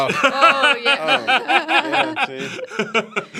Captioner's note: laughs